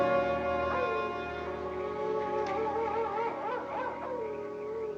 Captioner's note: coyote howls in distance